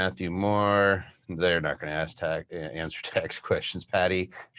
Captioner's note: chuckles